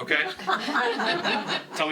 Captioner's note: laughing